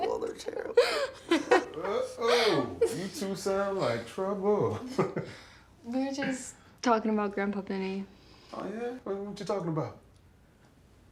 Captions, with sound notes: they're terrible, they're terrible. (both laughing) - Whoa-ho! You two sound like trouble. (laughs) - We were just talking about Grandpa Benny. - Oh, yeah? What you talking about?